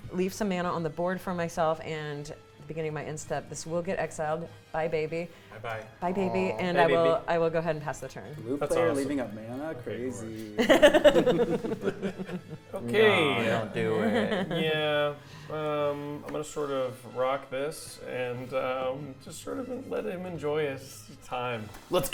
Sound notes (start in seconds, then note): 10.6 laughing